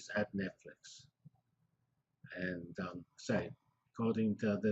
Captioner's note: pause